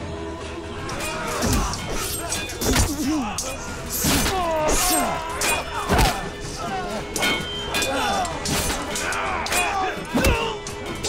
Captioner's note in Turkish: Çarpışma sesleri